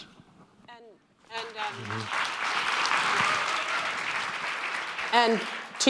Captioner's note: clapping